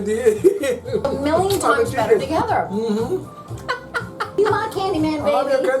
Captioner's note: laughing